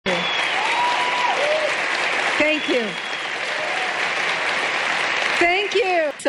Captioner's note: கைத்தட்டல்